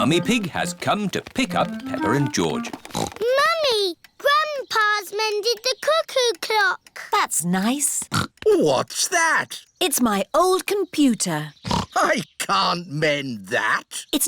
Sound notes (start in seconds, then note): 2.7 snorts; 8.1 snorts; 11.6 snorts